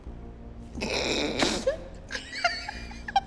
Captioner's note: laughs